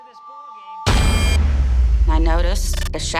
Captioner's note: loud booming